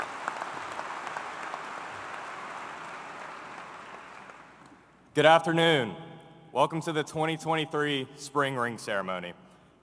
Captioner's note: applause